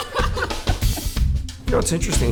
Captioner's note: laughter